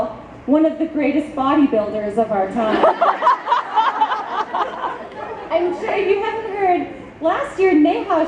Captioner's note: audience laughs